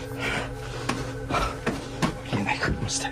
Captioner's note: heavy breathing